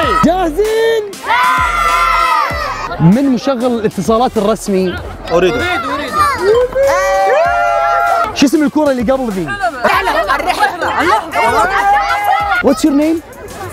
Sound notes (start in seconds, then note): 1.1 crowd cheering